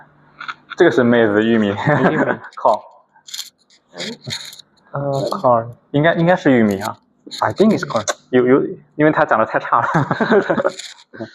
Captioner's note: laughs